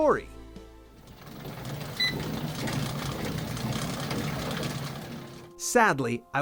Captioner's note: sounds of a recumbent bike whir